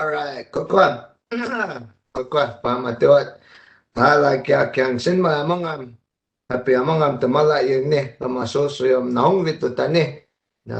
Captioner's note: speaking in native language